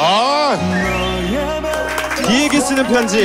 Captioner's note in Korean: 짝짝짝짝짝짝짝짝짝짝